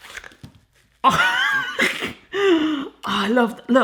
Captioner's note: laughs